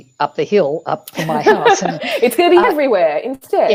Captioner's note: laughs